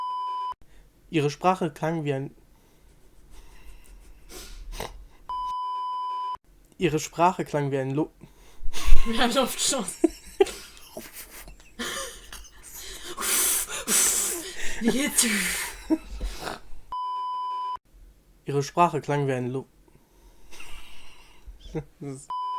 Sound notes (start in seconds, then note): 2.8 laugh; 7.5 blow; 11.5 laugh; 12.7 blowing accompanied by laughter; 20.4 chuckle